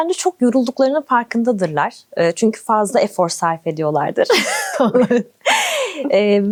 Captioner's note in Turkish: kahkaha